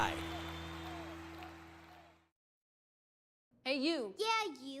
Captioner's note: group applause and cheers